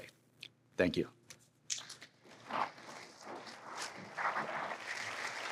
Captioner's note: applause